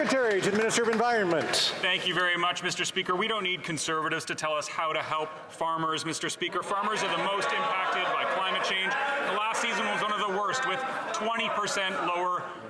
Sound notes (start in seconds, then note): 3.3 some Applause